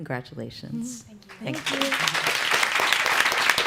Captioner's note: applause